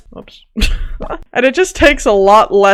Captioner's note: laughs